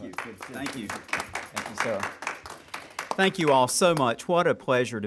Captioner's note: applause